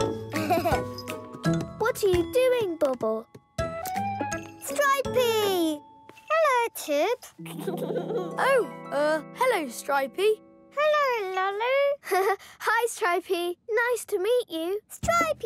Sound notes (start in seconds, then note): 0.4 more laughter; 7.4 giggles; 12.3 chuckles